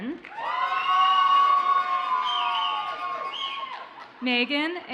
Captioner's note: audience cheers and applauds